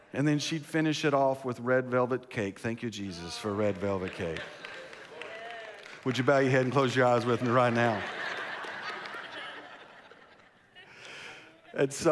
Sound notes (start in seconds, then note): 3.3 congregation applauds; 8.2 congregation laughs